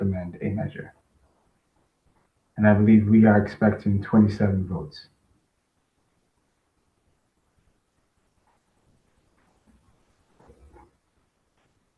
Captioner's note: pause